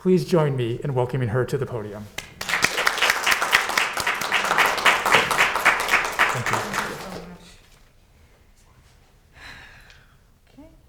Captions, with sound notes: Please join me in welcoming her to the podium. (students clapping) Thank you. - Thank you so much.